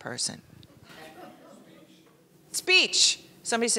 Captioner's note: laughing